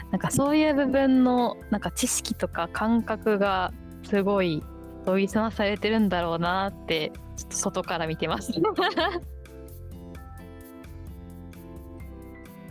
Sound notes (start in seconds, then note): 8.6 laughs